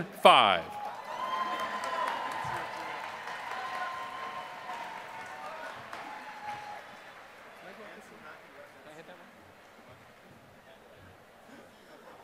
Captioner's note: applause